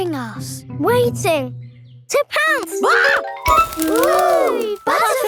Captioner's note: screams